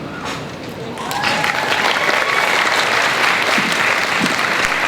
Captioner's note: crowd cheers and applauds